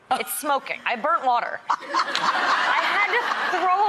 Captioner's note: audience laughs